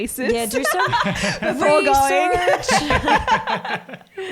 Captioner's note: all laugh